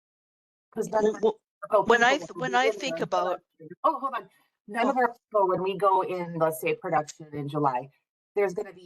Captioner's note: everyone talking